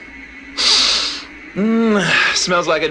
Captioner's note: sniffs